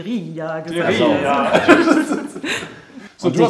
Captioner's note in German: Lachen